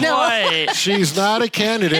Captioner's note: laughs